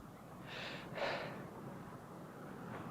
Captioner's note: sigh